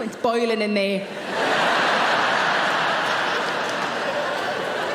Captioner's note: audience laughing